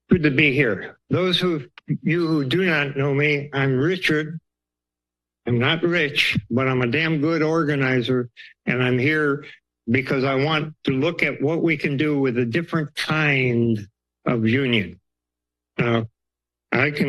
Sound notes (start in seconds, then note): 5.4 pause; 15.7 pause